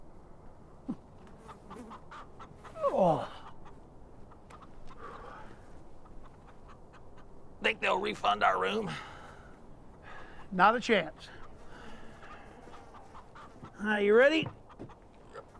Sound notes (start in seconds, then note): 2.7 Dutch groaning